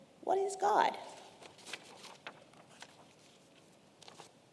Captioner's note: paper rustling